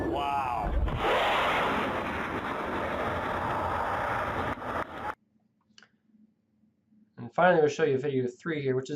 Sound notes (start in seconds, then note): 0.0 jet engine blasting